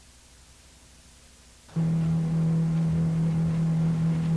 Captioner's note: boat motor running